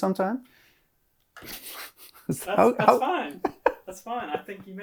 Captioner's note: laughs